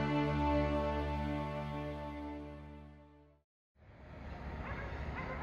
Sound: none

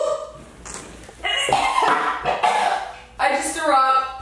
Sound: puking

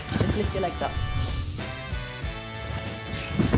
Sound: seat drop

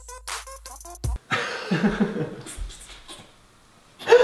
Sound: laughter

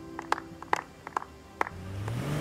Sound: applause

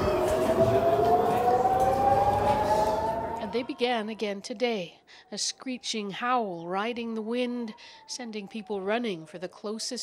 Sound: sirens

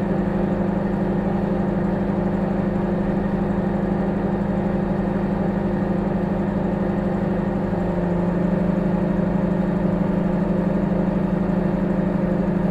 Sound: microwave humming

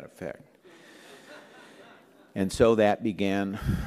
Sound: laughter

